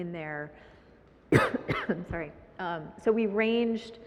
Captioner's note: coughs